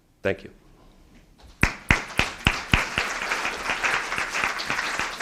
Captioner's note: applause